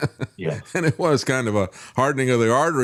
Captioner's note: laughs